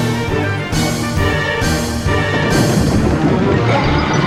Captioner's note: thunderclap, sinister laughter